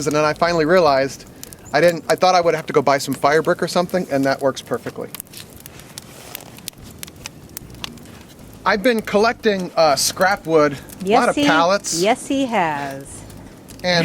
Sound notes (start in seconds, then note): 7.1 fire crackling